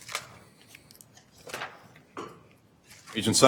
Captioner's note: papers rustling